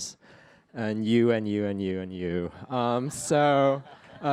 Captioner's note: laughter